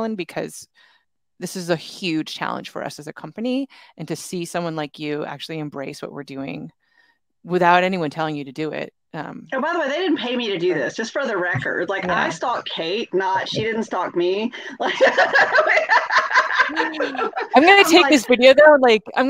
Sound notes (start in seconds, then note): 14.5 laughs